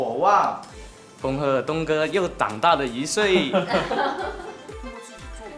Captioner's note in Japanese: ハハハ